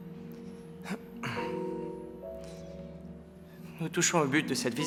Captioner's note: Peter clears throat